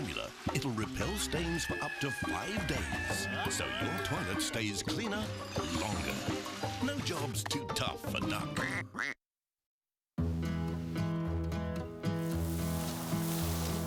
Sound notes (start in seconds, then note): 1.2 creatures scream; 10.2 cheerful music